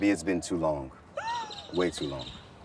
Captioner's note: friend gasps